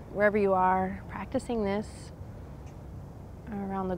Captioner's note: none